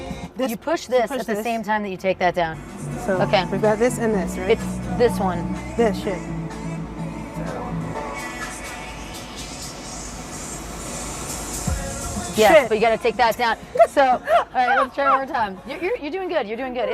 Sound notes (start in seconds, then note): 9.0 beat accelerates; 13.6 laughs